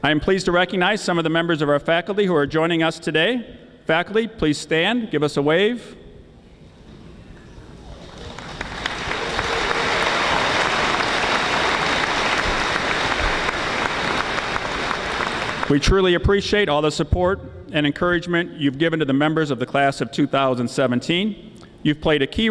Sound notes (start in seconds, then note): 7.8 audience applauding